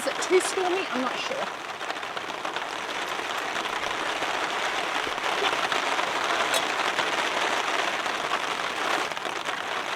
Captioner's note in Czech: Zní silný déšť